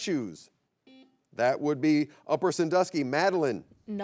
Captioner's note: buzzer beeps